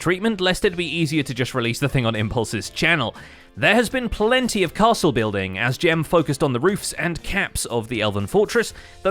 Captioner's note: none